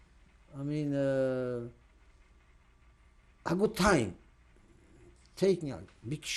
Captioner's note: pauses for 3 seconds